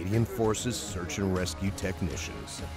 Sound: voiceover

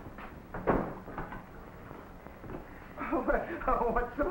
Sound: door shuts

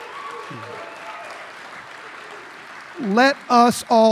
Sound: applause

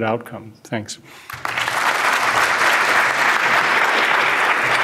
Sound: audience applauds

